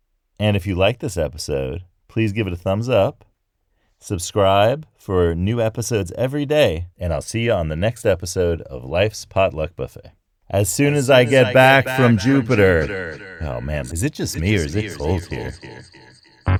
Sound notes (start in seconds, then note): 9.4 voice with spacey feedback echo loop; 16.4 space funk music